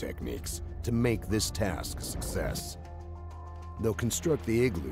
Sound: voiceover

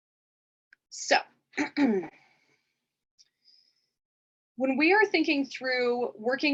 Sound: clears throat

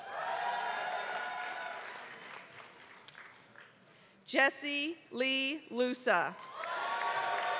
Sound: applause; applause

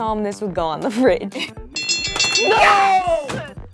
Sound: ding

